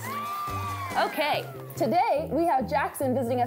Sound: cheering

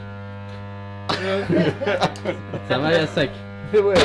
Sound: laughs

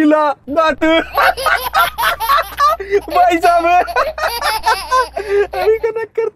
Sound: laughing

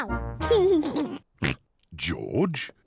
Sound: laughs; laughs, snorts

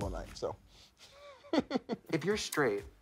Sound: laughs

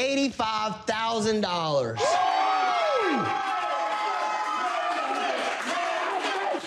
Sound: cheering

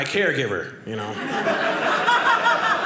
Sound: audience laughing

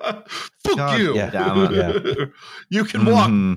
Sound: laughter; laughs

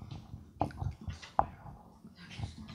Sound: whispers

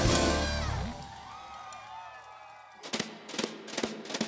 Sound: cheering; drums beating

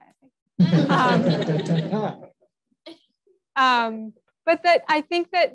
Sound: audience laughs

